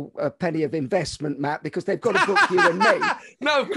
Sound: laughing

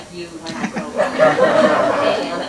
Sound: laughter

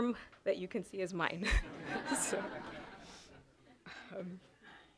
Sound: chuckling

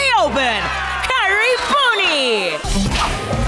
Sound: crowd cheering, indistinct

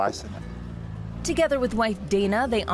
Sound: motor rumbles; upbeat music

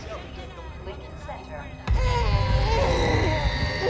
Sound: announcer over PA; groaning; whimpering

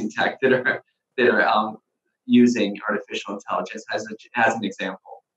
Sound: chuckling

